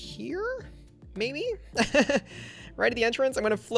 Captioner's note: laughs